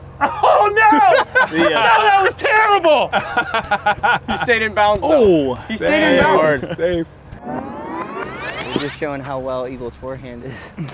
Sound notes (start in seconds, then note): 3.1 laughter